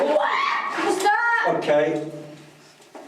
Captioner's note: screaming